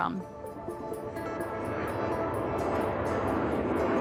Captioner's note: airplane engine roaring